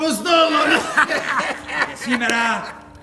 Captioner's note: γέλιο